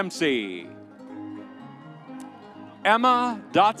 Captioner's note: audience cheering